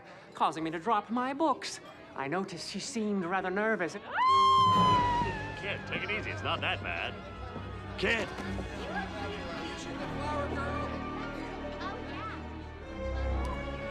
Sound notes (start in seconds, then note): 4.1 sharp screaming; 8.4 people chattering